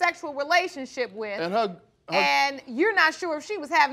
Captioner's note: stutters